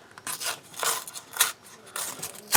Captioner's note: tearing sounds